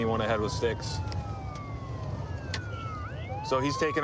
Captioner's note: sirens wailing